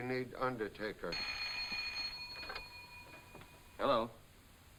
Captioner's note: phone ringing